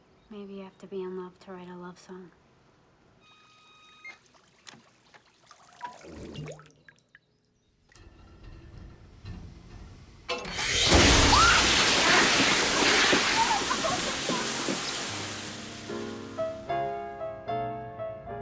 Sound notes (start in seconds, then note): 9.0 pipes rumbling; 10.4 water blasting; 11.9 laughing; 17.9 romantic piano music